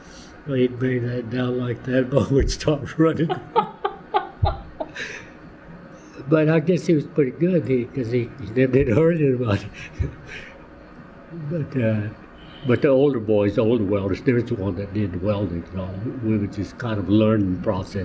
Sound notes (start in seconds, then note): 5.8 laughter; 9.6 laughs